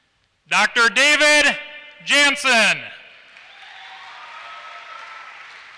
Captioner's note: applause